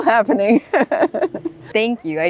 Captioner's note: laughs